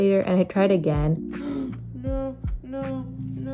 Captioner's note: gasp